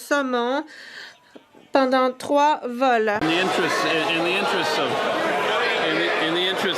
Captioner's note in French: voix de l'interprète